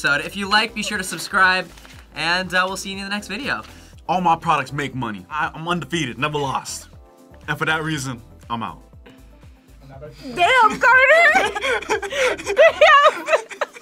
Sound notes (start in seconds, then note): 10.4 both laugh